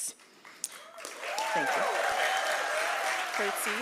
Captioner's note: applause